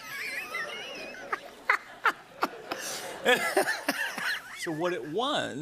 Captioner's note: laughter